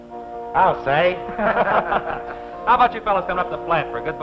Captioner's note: laughing